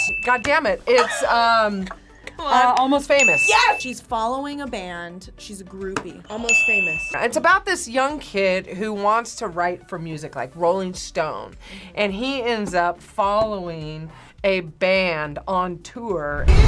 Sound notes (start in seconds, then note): 0.0 gasps; 0.0 bell rings; 6.4 buzzer rings